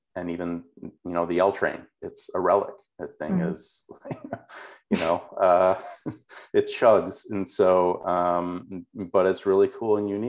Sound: laughs

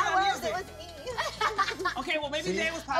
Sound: laughs

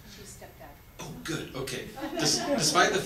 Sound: audience laughs

